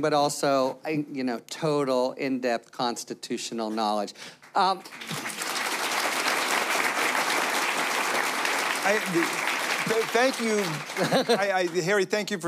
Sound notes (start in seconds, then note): 4.3 applause; 10.9 laughter